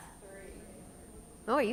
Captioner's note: audience murmurs